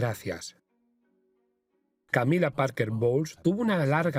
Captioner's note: voiceover